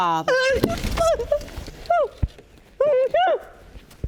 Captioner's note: crying